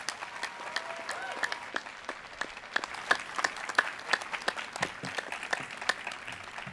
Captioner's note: cheers and applause